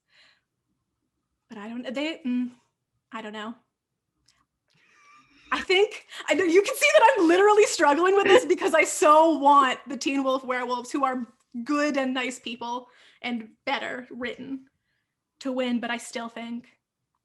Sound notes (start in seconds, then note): 5.2 laughing; 17.0 whispered